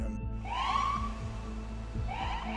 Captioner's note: siren blares; melancholic music continues